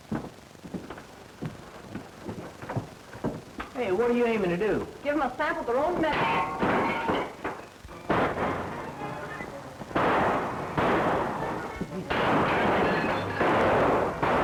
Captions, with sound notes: Hey, what are you aiming to do? Give them a sample of their own medicine. [glass shattering] [gunshots]